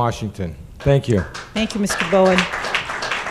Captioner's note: applause